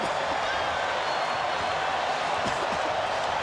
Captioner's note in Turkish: coşkulu tezahürat